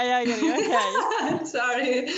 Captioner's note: laughs